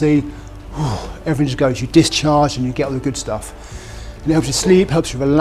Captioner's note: sigh of relief